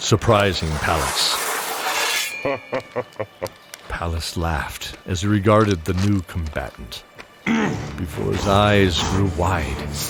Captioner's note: laugh